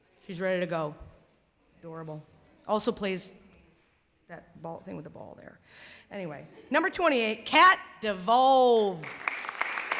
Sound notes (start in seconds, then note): 9.0 clapping